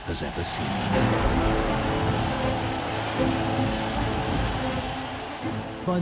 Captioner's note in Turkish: kalabalık tezahürat